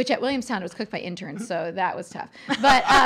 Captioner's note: laughing